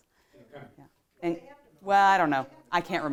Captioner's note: woman speaking off microphone